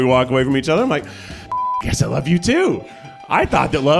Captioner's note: beep